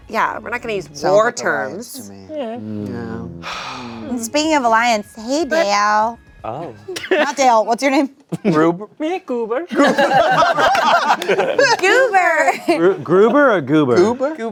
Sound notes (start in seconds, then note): 9.7 everyone laughing